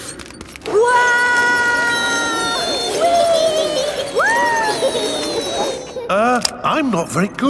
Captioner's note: all yelling